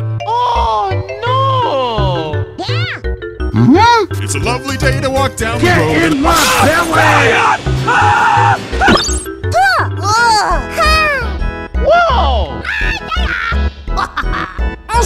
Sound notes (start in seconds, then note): 7.8 screams of the innocent; 8.7 poof; 12.8 crazy laughing